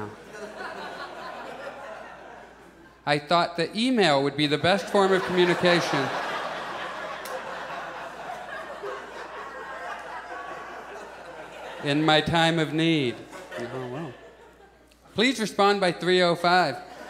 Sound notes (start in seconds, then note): 0.0 audience chuckles; 6.1 audience laughs; 13.0 audience chuckles